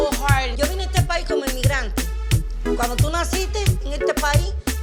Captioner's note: speaking Spanish